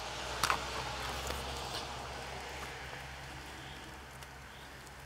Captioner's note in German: Ein Auto fährt vorbei, vereinzeltes Vogelgezwitscher